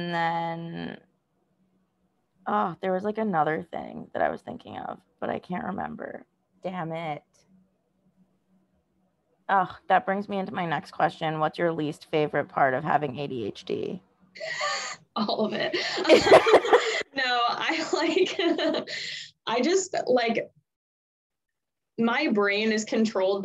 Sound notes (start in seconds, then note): 14.4 laugh